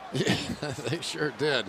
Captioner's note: chuckles